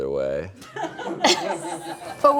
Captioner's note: group laughs